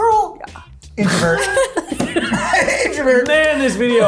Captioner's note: laughs